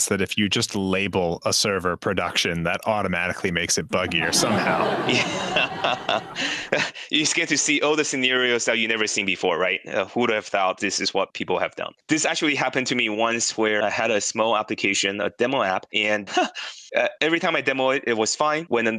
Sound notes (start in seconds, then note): 4.7 laughtrack; 5.6 laughs